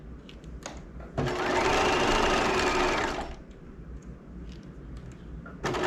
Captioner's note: sewing machine whirling